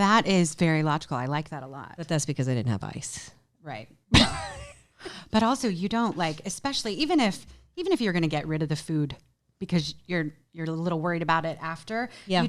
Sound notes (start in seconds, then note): 4.2 chuckles